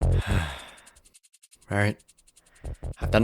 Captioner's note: sighs